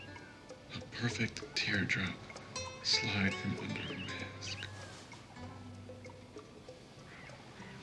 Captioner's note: none